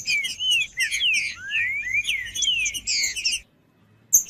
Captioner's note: trinca ferro cantando